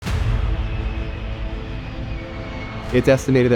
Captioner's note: intense music; airplane droning